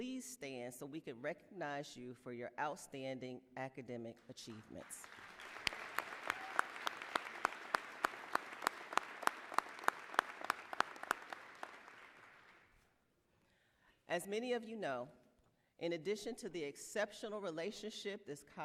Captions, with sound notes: FRESHTA SHARIFI PLEASE STAND SO WE CAN RECOGNIZE YOU FOR YOUR OUTSTANDING ACADEMIC ACHIEVEMENTS. [APPLAUSE]